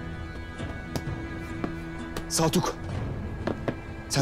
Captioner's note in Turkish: Takırtı Sesleri